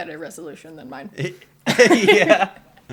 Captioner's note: laughter